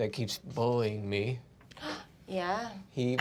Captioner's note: gasps